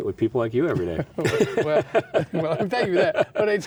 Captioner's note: both laughs